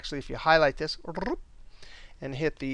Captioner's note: rolls tongue